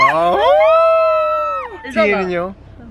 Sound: ohhhhh

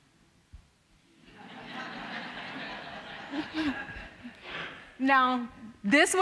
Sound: audience laughing

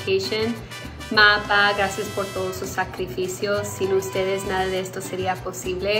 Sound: speaks in foreign language

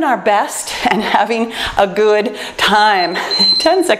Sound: timer beeps

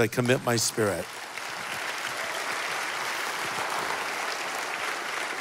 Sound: congregation applauding

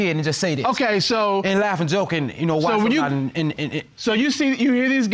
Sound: stammers

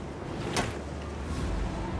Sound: thunder rumbling

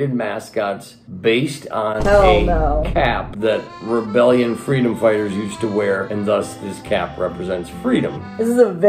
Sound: boom; accordion music

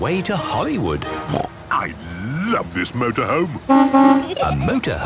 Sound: honking

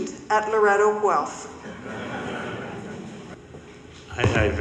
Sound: audience laughing

